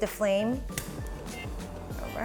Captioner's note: clicking